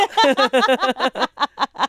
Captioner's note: all laugh